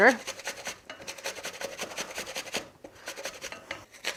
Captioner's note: grater whooshing